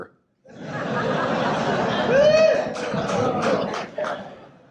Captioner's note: audience laughs